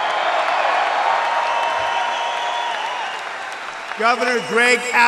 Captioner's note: applause